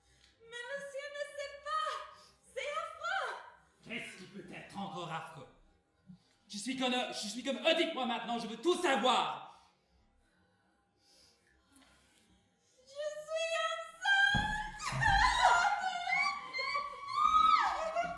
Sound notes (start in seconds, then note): 14.6 sobbing; 14.8 gasping, cackling